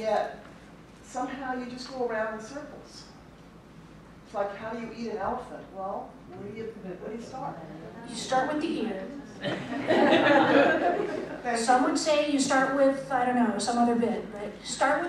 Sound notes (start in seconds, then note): 9.4 laughter